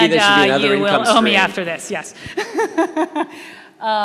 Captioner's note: laughing